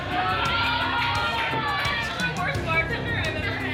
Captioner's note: people shouting